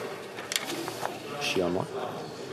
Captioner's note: speaking French